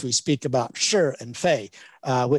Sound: speaks in Chinese

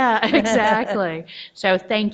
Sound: laughs

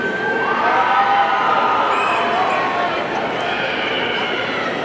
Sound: audience cheering

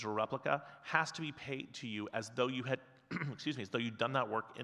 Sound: clears throat

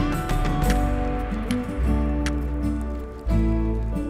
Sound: stones scratch

